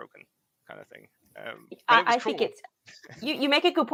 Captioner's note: laughs